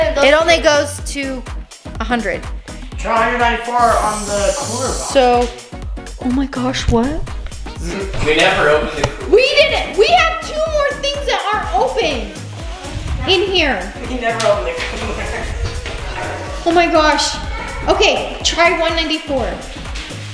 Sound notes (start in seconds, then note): 14.4 laughs